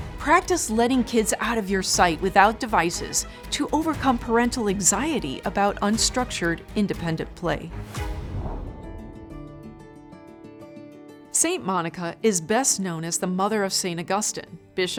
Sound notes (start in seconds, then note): 7.9 air whooshing; 8.0 light music